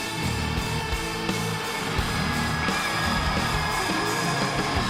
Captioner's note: audience cheers